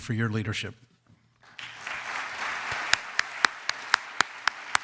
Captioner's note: audience applauds